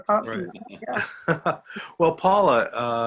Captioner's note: laughter